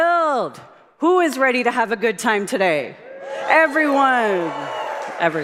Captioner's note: applause